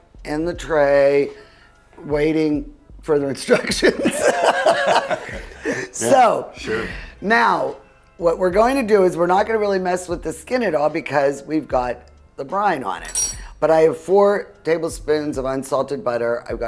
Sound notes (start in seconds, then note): 3.5 both laugh